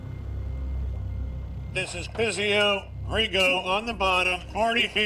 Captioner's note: speaking over radio